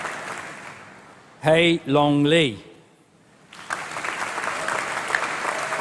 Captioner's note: applause